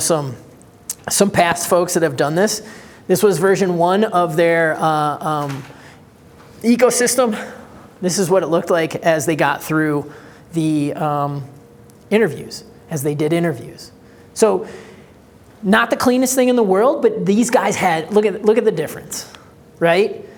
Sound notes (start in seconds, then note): none